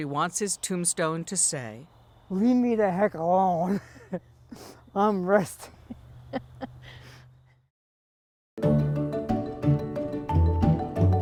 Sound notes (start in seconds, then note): 3.4 laughs; 6.2 laughs